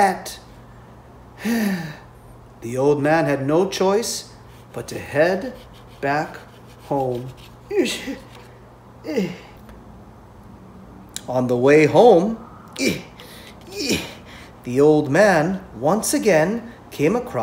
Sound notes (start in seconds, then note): 1.4 deep sigh; 13.6 grunting sounds of effort